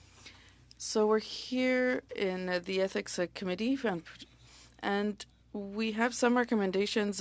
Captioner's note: speaking French